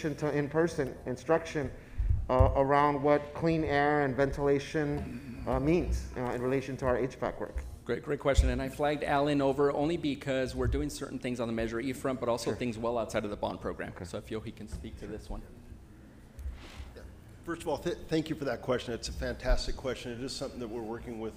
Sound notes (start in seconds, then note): none